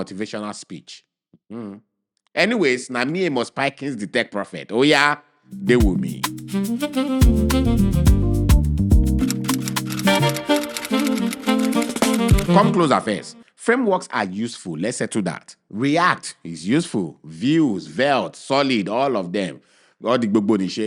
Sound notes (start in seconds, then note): 8.0 instrumental music; 9.2 typing